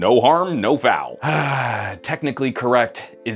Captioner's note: sighs